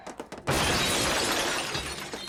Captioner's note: crash